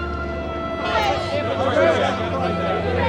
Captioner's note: reporters clamoring